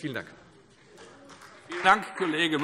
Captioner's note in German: Beifall Freie Demokraten